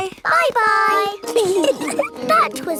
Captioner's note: giggling